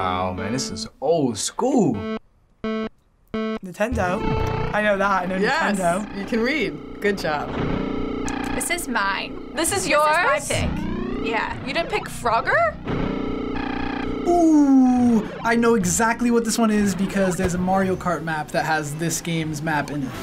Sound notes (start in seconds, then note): 1.8 timer beeping; 7.5 engines revving